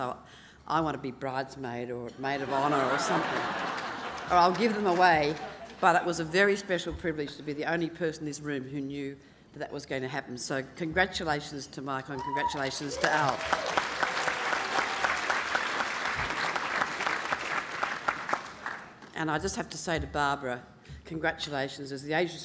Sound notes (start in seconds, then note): 4.4 laughing; 12.5 applause